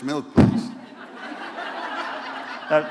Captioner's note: laughter